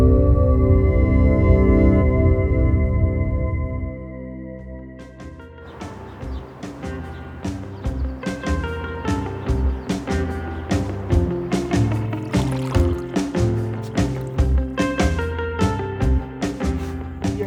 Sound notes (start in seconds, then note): 5.8 upbeat music; 6.0 birds chirping